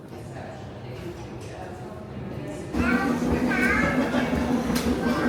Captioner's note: passengers talking faintly